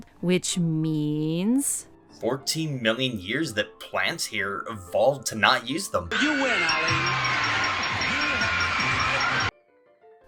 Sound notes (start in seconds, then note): 6.0 prize bell ringing